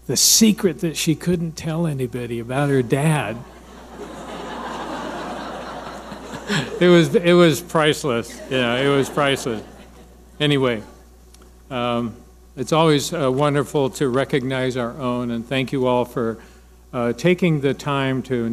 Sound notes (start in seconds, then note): 3.4 audience laughing